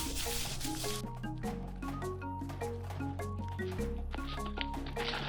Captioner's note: footsteps clumping